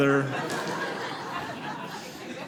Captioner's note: audience laughing